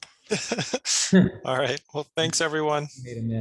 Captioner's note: laughs